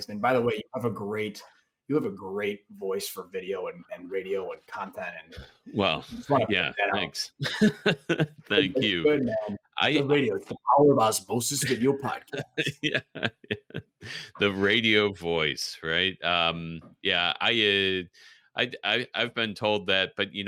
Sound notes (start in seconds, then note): 7.4 laughs; 11.7 all laugh